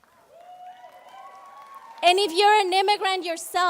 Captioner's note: applauding